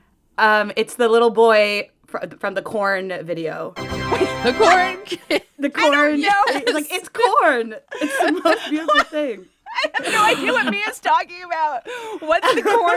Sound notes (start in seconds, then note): 3.7 soundbite of victory tune; 5.0 laughter